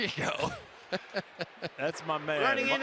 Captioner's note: laughs